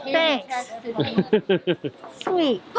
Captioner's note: laughing